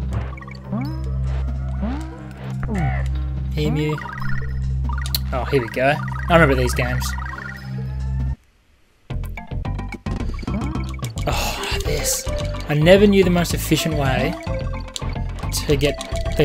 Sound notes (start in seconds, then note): 7.9 scoffs